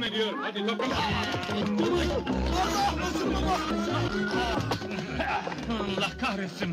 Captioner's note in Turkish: i̇ti̇şme sesleri̇